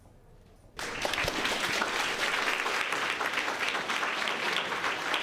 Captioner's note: crowd applauds